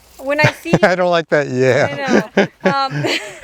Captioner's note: laughing; chuckles